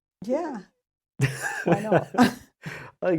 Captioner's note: laughs